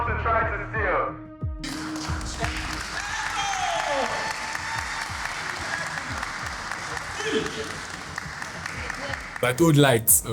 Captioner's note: cheering